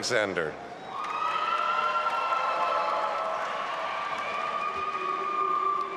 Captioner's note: all applauding and cheering